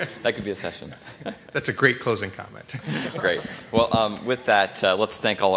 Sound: laughter

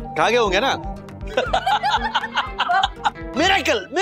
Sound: laughs

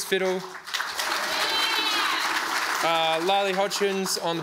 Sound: audience applauds

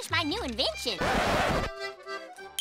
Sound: record scratch

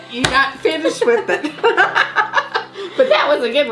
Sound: both laughing

